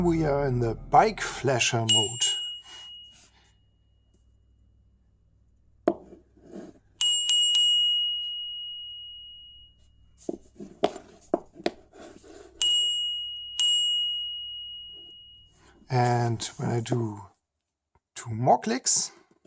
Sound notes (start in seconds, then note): 3.3 bell rings; 7.0 bell rings 3x; 12.6 bell rings 2x